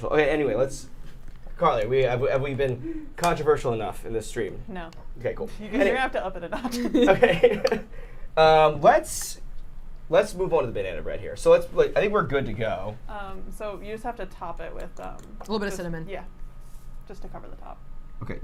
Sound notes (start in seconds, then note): 8.1 laughs